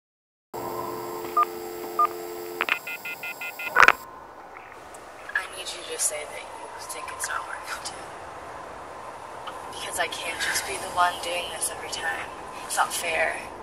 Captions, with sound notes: (Phone buttons beep) (Dial tone) - I need you to say that you think it's not working, too. Because I just can't be the one doing this every time. It's not fair.